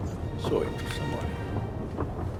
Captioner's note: man speaks in foreign language